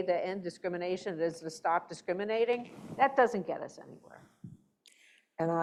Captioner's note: none